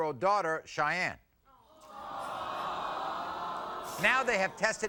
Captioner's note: audience awwing